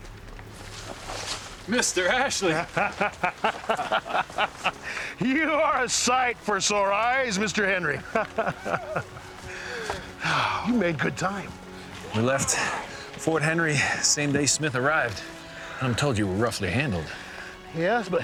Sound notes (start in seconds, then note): 3.9 chuckling; 7.9 chuckling; 11.3 sighs